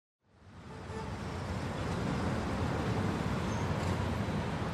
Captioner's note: cars driving